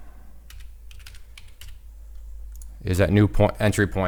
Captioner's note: keys typing